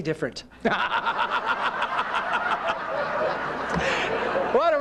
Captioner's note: laughter